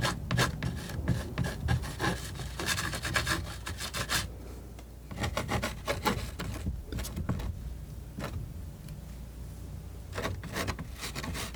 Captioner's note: scratching